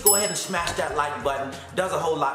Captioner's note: bell ringing